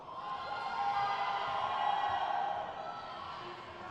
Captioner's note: crowd cheers